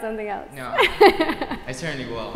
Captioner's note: laugh